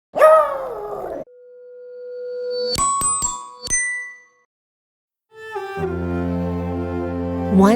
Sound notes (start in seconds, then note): 0.2 howl; 2.1 chime